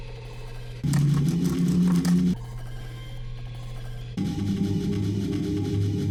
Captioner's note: electronic whirring and warbling